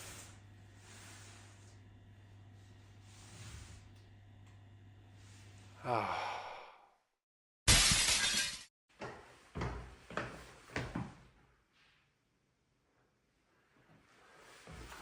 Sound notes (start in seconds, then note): 7.6 sound of breaking glass